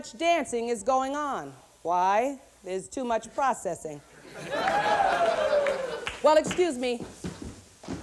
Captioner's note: thumps across stage